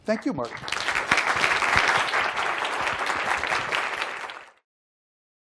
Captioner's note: applause